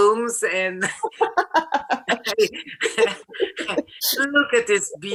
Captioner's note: laughter